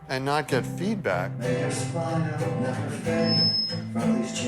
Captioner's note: microphone feedback